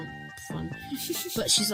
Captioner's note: giggles